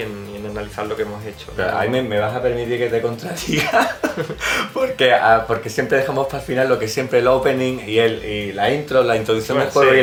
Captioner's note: laughing